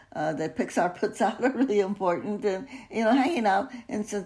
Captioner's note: chuckles